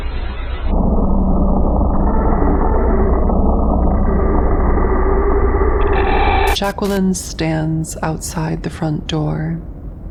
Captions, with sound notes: (distorted, slowed down doorbells over crunching) Jacqueline stands outside the front door.